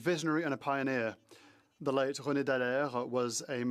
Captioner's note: speaking French